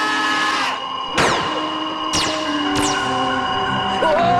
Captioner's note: lasers firing